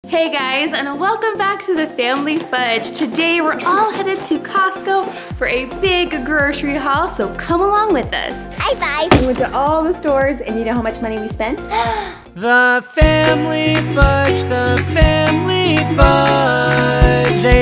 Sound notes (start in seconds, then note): 11.7 gasps